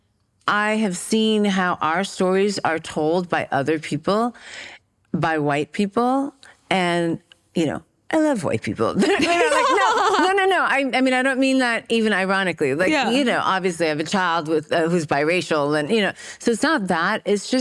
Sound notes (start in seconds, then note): 9.0 laughter